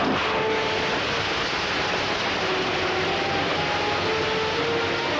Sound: electricity crackling

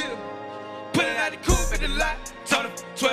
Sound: echoing

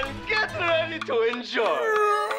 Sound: yawns

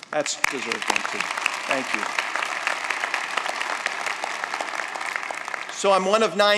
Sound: applause

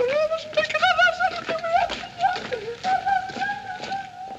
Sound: Stan's high pitched weeping

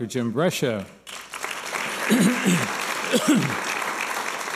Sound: applause

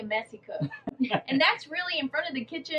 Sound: chuckles

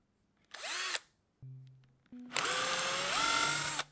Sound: drill whirring

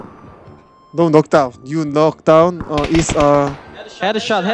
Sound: in broken English

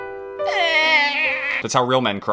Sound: sad Music; manly Cry

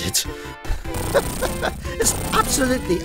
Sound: chuckles

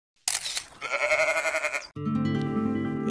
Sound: camera shutter; goat bleating

